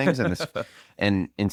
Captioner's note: laughs